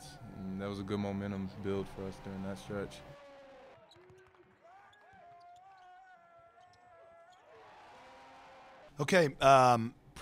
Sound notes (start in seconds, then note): 3.0 players shouting; 7.4 crowd cheering